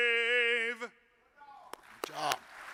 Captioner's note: audience claps